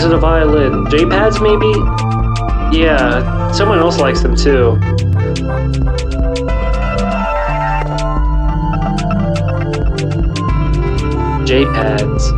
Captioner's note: mouth music